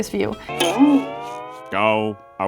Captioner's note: rubber band flicking sound